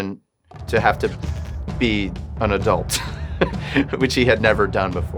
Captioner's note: laughs